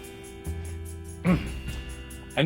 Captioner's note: clears throat